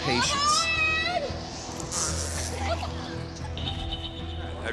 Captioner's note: screams loudly